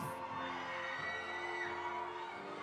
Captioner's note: audience applauding; audience cheering